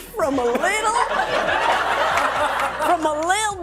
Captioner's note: audience laughing